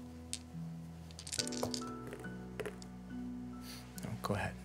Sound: dice rattling

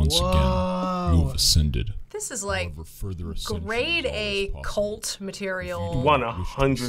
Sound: voice-over

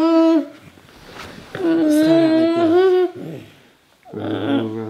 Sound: cries

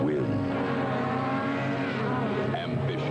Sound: engines

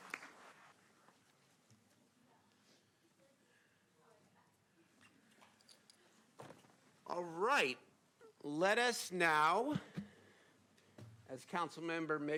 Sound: applause

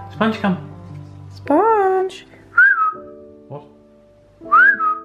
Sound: whistles

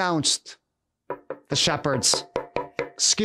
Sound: knocking

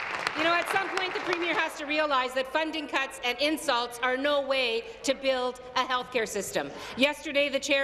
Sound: applause

